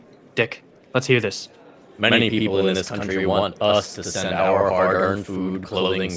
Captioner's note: loudspeaker